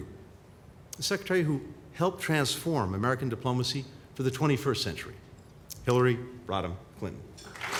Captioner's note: applause